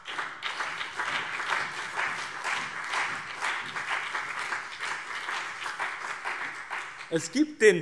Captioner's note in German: Beifall BÜNDNIS 90/DIE GRÜNEN und CDU